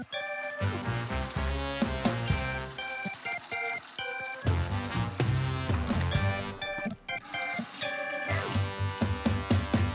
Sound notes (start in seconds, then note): 2.0 stream flowing